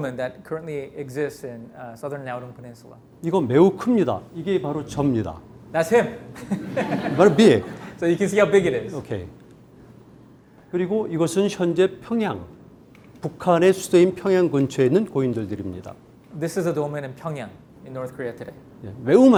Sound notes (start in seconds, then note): 3.4 speaking in Korean; 6.4 audience laughing; 6.4 laughs; 6.7 speaking in Korean; 11.0 speaking in Korean; 19.2 speaking in Korean